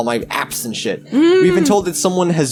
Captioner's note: chuckles